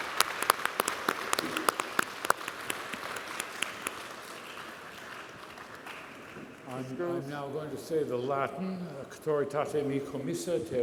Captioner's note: applause